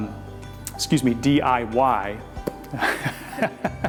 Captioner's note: laughs